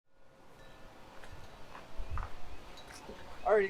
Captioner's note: wind chimes ringing; birds chirping